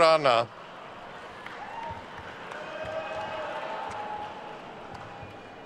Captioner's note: attendees cheering and applauding